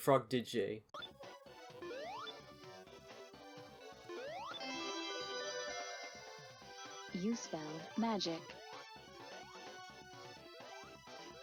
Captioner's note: gameplay sounds